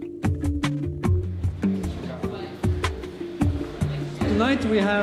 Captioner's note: lively music; people talking